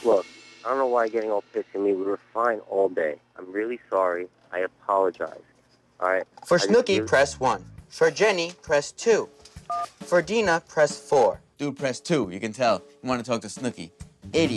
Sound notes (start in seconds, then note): 9.7 beeping